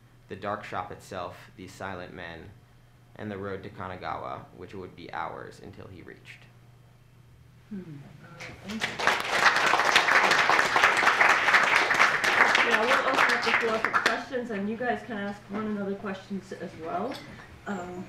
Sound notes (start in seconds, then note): 8.5 applause